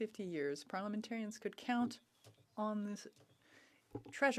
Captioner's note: speaking French